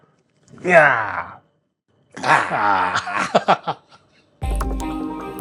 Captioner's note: weird grunting noises